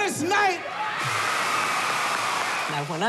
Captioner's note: cheers and applause